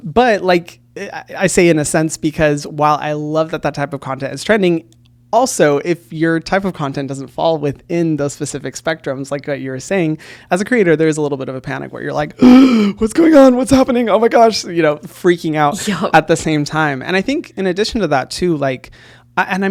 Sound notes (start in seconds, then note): 12.4 gasps